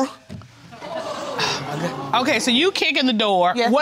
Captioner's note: audience gasping